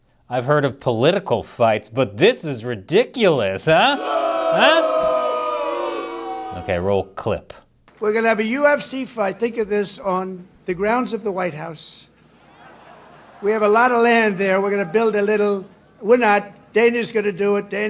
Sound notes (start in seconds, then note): 3.6 audience jeers